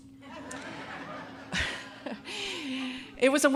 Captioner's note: audience laughing